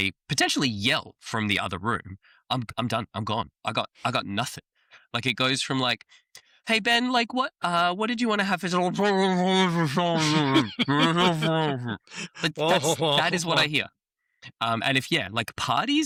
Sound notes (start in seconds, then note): 10.0 indistinct trombone sound; 12.3 laughter